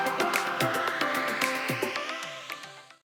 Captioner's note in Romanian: Aplauze